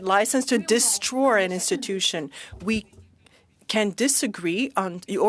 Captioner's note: speaking French